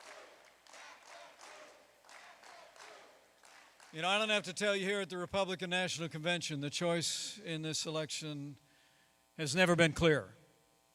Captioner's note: chanting "back the blue"